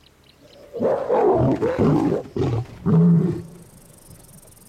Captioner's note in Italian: ruggito